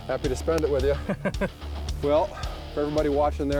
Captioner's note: laughing